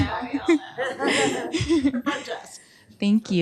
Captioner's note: laughter